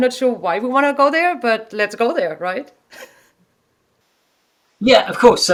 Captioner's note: chuckles